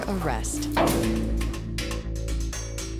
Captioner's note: metal door clangs